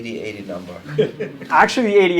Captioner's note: laugh